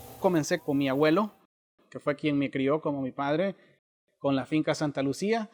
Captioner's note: speaking Spanish